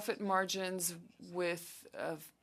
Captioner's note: speaking French